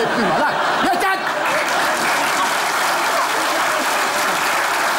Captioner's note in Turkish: Alkış sesleri